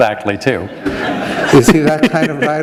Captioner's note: laughter